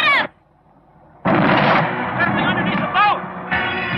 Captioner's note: banging